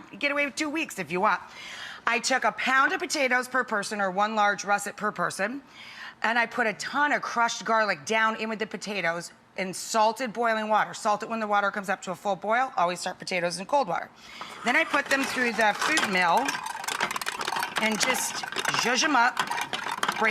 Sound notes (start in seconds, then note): 16.4 grinding